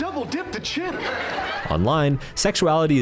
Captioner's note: audience laughs